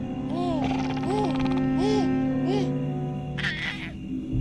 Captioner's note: baby cooes